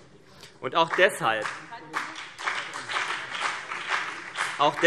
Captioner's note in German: Beifall BÜNDNIS 90/DIE GRÜNEN